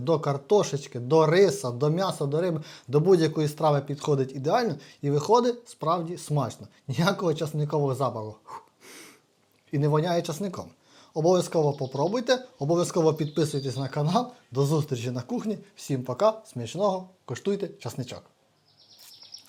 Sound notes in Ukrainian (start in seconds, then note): 8.4 сопіння